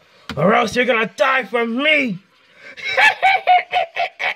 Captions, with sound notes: Or else you're gonna die from me! (laughing)